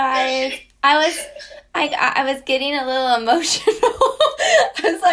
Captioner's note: laughs